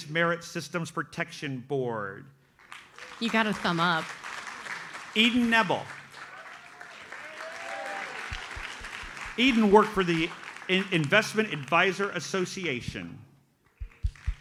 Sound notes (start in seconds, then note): 2.8 audience applauds; 7.1 audience cheers and applauds; 13.7 audience applauds